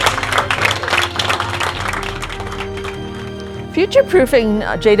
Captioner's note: cheering